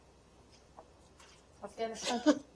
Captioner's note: laughter